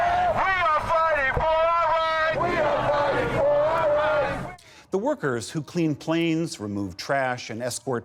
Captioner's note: chanting